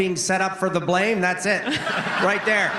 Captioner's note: laughter